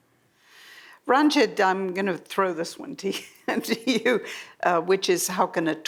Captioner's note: laughs